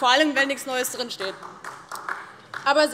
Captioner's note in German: Beifall DIE LINKE